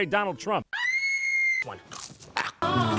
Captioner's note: screams over an artist's rendition of an ATST for the Atari game